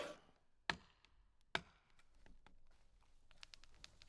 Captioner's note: thumping